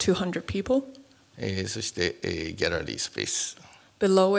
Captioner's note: speaking japanese